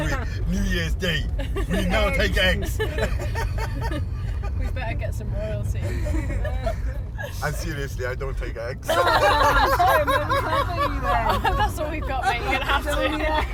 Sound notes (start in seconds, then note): 2.8 hysterical laughter; 5.9 laughter dies down again; 8.9 hysterical laughter